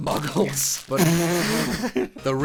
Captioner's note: laughter